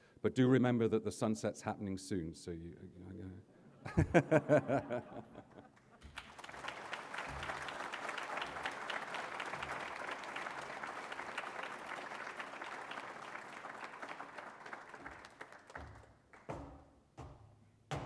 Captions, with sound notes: But do remember that the sunset is happening soon. [LAUGHS] [APPLAUSE]